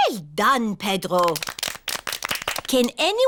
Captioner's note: all clap